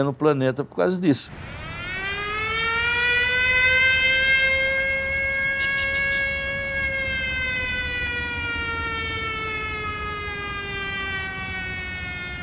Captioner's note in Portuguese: sirene da fábrica